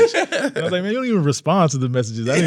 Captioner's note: all laughing